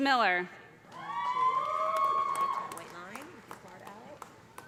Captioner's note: loud cheering